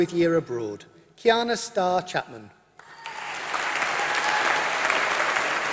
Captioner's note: applause